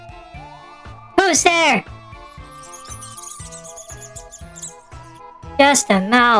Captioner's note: panicking